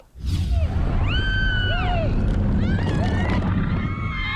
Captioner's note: screaming